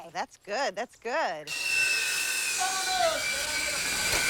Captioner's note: saw buzzing